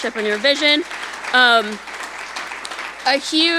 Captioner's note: audience applauding